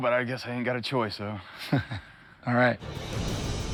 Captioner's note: laughs